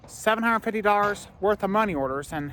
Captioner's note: none